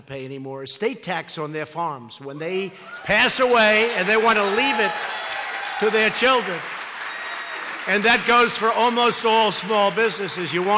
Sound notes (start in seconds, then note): 6.6 applause